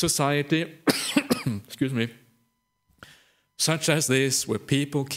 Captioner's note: coughs